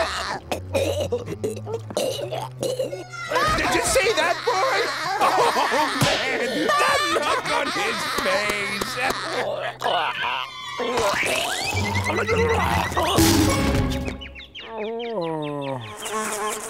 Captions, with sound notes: [laughing] [choking] Did you see that, boy? Oh man! That look on his face! [choking] [groaning]